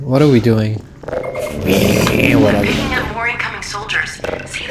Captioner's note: hog like sounds